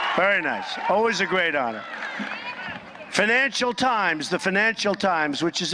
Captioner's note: applause